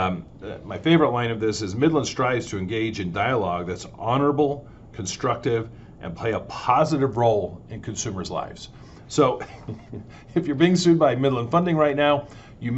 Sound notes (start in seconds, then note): 9.4 laughs